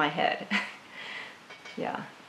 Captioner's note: laughs